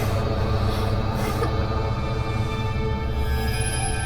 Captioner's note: whimpering